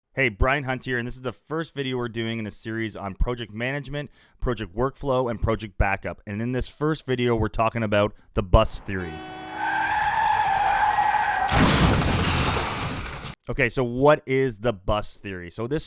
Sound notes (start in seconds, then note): 8.8 tires screech; 11.7 bus crashes